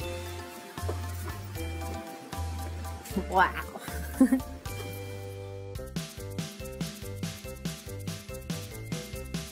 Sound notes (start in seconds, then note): 0.3 lively music; 3.8 chuckles; 6.3 lively music